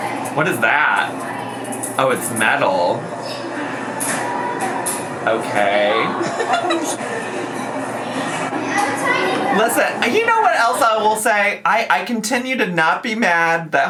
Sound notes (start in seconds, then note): 6.2 laughs